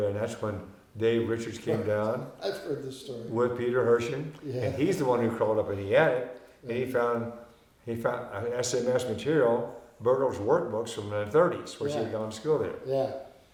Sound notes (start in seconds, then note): 2.8 laughing